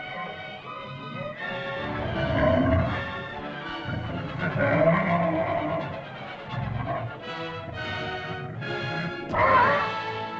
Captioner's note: dinosaur moans & growls; dramatic music; dinosaur growls; dinosaur cries out